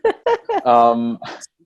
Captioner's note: laughs